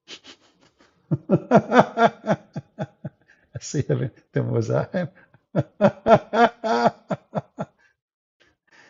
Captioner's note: Ketawa